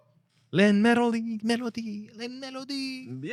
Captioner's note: speaking In Foreign Language